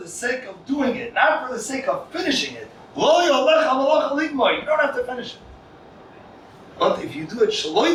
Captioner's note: Hebrew